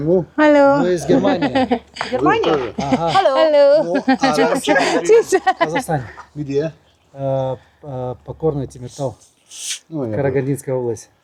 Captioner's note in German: gelächter